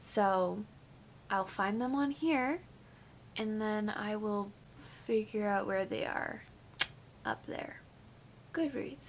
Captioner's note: tongue click